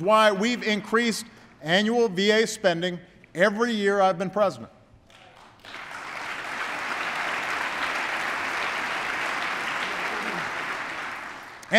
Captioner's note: applause